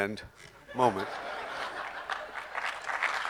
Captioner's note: audience laughing; audience clapping